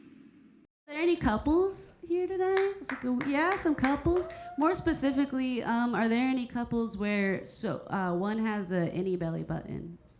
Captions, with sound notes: - Are there any couples here today? Yeah, some couples? (audience applauding) More specifically, are there any couples where... So, one has a innie belly button